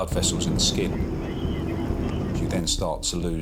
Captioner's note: boat droning